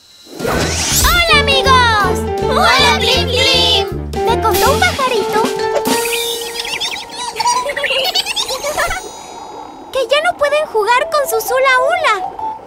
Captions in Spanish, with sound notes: ¡Hola, amigos! ¡Hola, Plim Plim! Me contó un pajarito… (Sonido de pájaro) (Risas) Que ya no pueden jugar con sus Hula Hula,